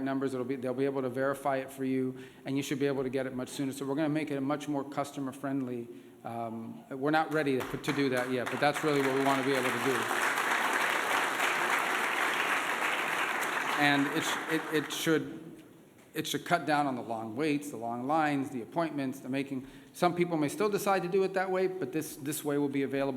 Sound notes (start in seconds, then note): 14.5 applause